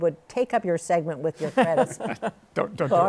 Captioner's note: laughs